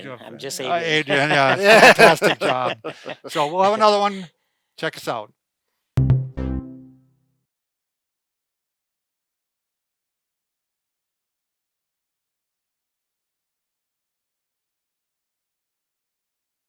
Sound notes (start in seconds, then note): 6.0 electronic bounce